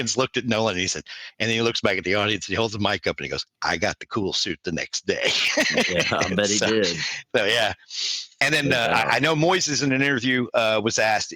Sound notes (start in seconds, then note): 5.2 laughs